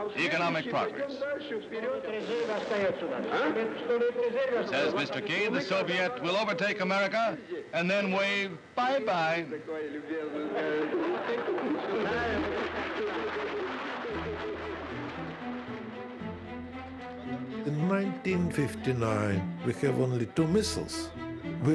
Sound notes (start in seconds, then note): 2.0 Nikita Khrushchev speaking in Russian; 10.7 crowd laughing, applauding